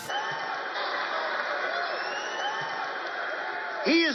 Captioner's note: laughing